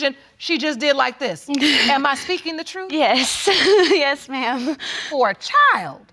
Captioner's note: chuckling